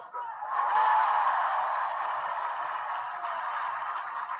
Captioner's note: audience applauding